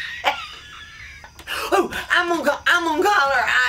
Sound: laughs

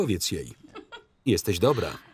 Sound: laughing

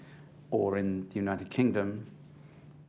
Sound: none

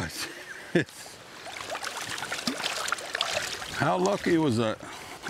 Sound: water splashing

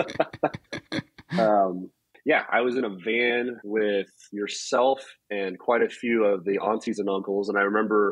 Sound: laughs

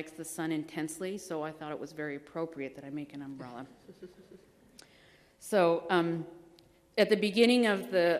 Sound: laughter

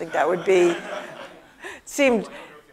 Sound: laugh

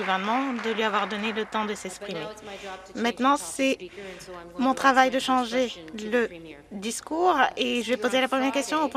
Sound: applause

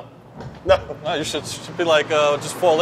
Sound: laughs

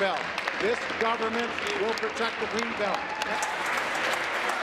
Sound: applause

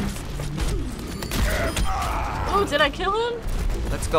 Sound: in game: dying groan

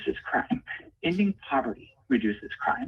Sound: ~audio distortion~

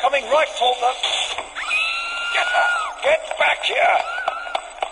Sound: Static; Samantha's scream heard

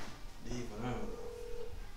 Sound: phone begins to ring

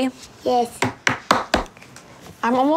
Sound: banging cards on table

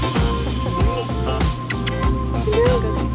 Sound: kissing sounds

